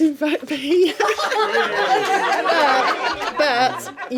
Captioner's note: laughing